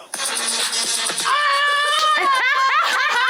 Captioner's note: rhythmic music; screaming; Jasmine laughing